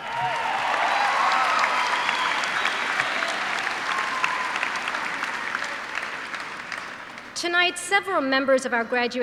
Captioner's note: cheers and applause